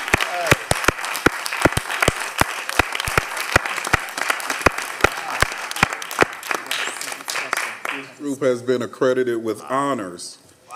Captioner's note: applause